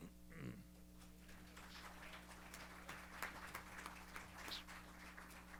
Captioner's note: applause